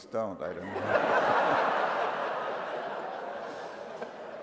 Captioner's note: laughter